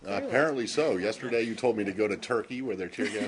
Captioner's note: laughter